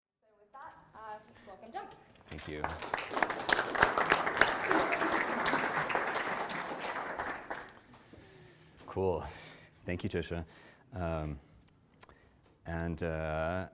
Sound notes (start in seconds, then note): 2.3 applause